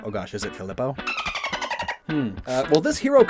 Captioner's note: dolphin noise SFX